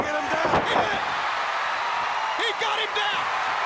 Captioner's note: crowd cheering